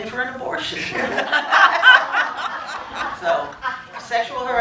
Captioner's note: laughter